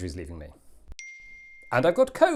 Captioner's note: ping